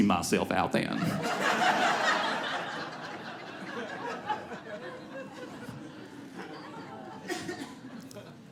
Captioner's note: audience laughs